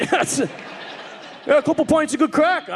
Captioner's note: audience laughing